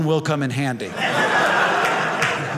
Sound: audience laughing

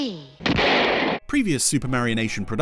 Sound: gun fires

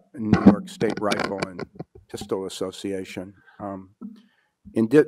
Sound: drowned out by static crackling

